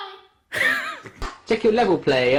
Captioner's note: laughs